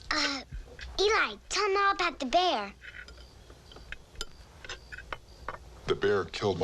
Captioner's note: none